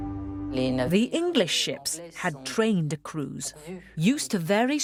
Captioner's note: voiceover